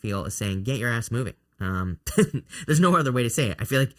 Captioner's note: laughs